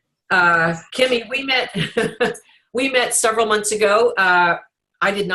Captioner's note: laughs